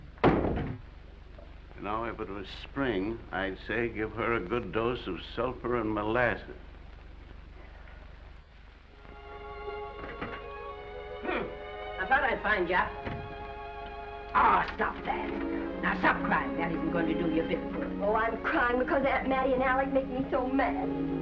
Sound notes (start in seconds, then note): 0.2 door bangs; 7.4 Mattie sighs; 8.7 gentle music